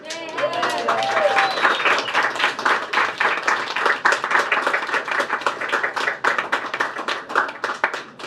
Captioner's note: applause